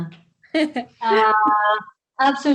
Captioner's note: laughs